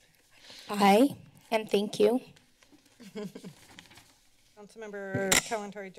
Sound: laughter

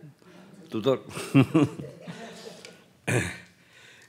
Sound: laughs

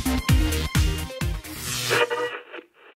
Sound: sound Effects

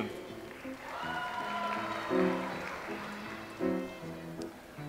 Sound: audience applauds

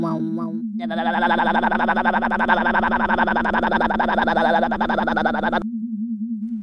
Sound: motor slowing down

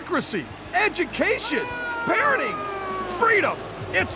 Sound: audience boos

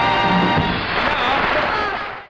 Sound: audience applauding

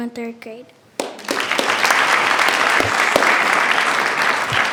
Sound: attendees clapping

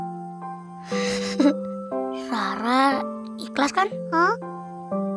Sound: laughing

